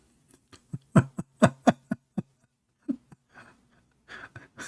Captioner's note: Ketawa